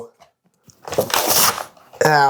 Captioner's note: ripping Paper